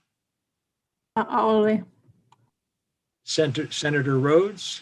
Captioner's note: non-English response